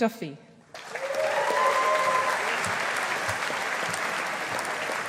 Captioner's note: audience applauding